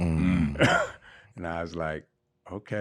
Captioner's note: laughing